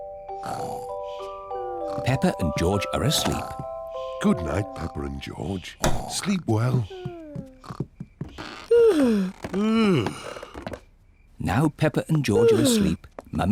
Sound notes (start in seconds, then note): 0.4 peppa and george snore; 8.4 yawns